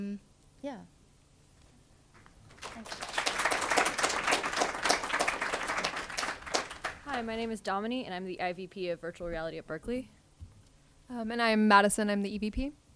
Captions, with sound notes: yeah, thank you. (audience applauds) - Hi my name is Damini, and I'm the IVP of virtual reality at Berkeley, and I'm Madison and I'm the EVP.